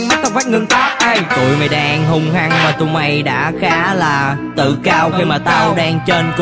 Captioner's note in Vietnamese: pwar